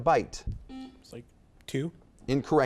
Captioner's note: buzzer beeps